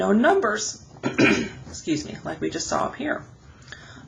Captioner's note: clearing throat